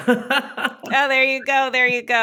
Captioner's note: laughs